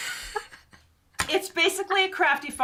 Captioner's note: chuckles